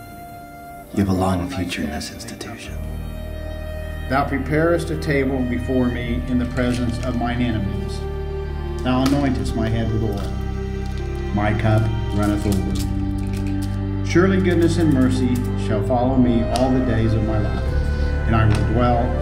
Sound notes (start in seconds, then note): 6.5 pills rattling